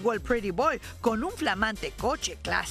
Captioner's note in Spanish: hablando en inglés